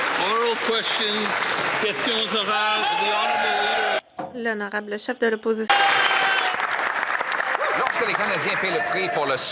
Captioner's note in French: voix de l'interprète; applaudissements